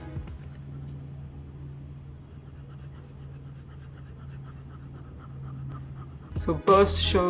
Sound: panting noises

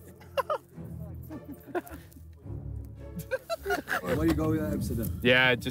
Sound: laughing

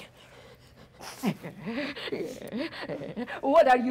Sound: Sharik softly snarling

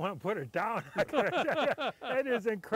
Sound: laughing

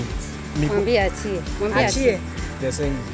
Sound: speaking swahili

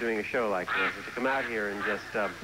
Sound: quack quack

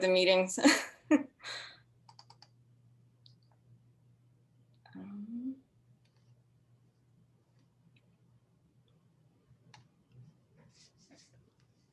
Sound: laughter

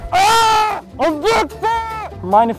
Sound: yelling

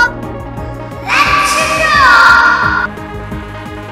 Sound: echo

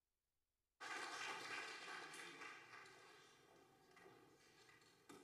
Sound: audience applauding

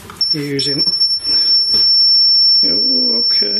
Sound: metre beeps

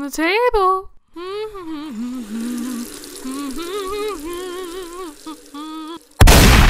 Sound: hums a tune while water is running; gun shot sound

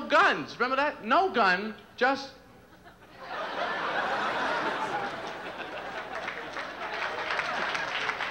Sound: laughter and applause

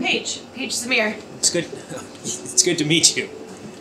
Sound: chuckles

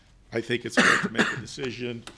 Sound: coughing

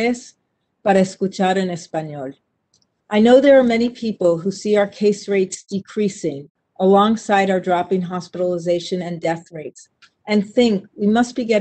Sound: speaking spanish

